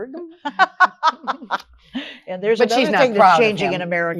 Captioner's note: laughs